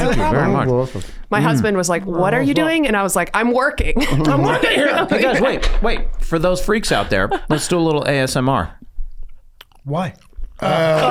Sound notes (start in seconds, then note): 4.0 laughs